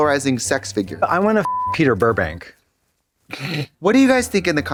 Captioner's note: beep